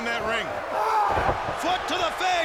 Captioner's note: body thudding